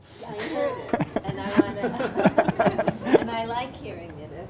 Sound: laughs

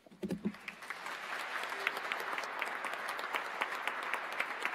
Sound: audience applauds

